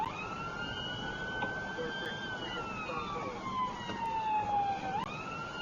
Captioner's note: police car siren